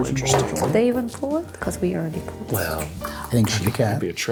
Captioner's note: whisper